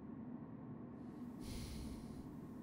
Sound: JAKE sighs

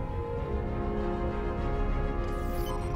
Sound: monitor beeping

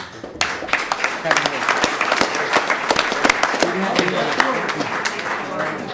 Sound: applause

